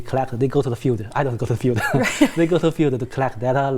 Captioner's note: laughs